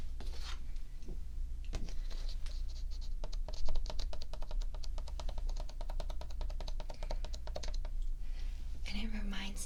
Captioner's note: paper tapping